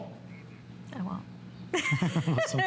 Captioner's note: laughter